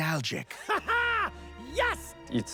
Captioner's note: laughs